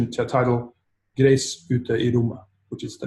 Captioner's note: speaking in a foreign language